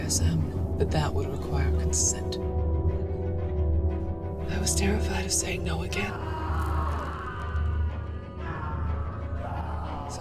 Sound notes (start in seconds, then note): 6.4 Solomon groans; 8.3 tense music continues